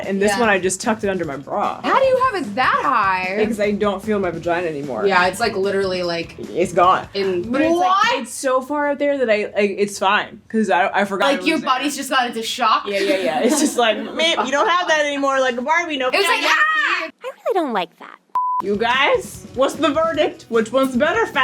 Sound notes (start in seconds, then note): 12.9 laughs; 18.3 beep